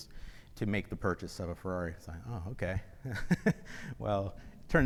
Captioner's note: laughs